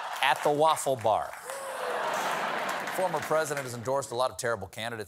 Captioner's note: laughter